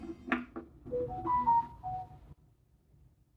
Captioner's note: mobile phone alert